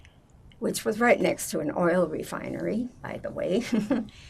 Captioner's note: laughing